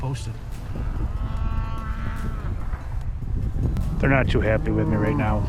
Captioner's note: cows moaning